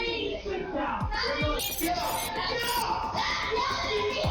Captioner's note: angry chatter